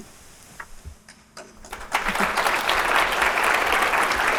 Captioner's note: audience applauding